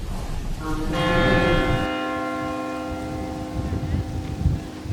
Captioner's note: church bell ringing